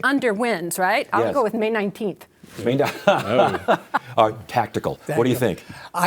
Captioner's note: laughing